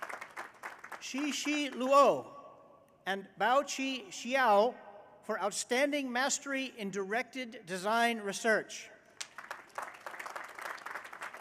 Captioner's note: applause